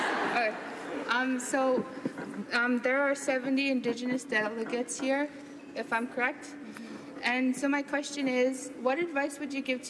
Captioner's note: laughter